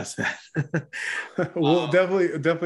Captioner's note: both laugh